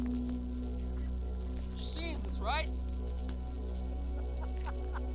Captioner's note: device Humming & Electricity Crackling